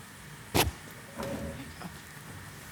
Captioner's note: hissing